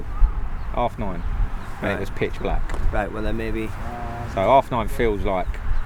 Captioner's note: whoosh of wheels